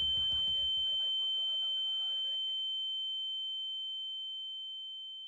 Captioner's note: ear Ringing